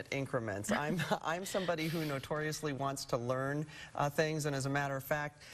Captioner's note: chuckling